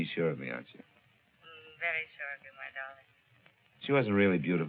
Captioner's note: on phone